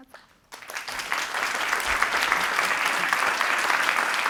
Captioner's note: audience applauding